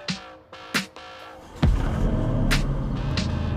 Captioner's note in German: Motor heult auf